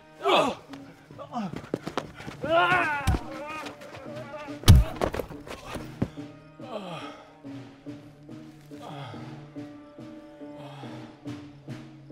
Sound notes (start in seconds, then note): 2.0 punches thumping; 6.5 groans; 10.1 ominous music continues